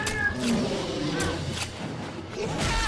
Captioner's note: knife slicing; blood squelching; claws slicing